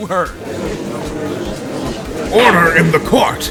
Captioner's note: gallery chattering